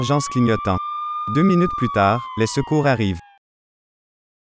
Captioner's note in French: sirène